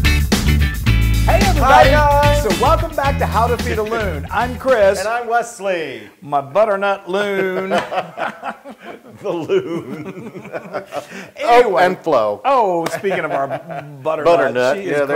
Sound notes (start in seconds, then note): 7.2 laugh